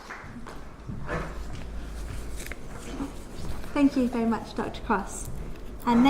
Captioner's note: applause